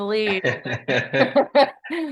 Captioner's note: laughs